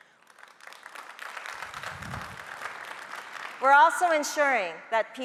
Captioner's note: audience applauding